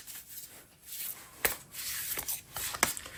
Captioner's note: drawing cards